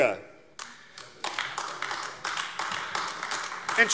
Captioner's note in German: Vereinzelter Beifall AfD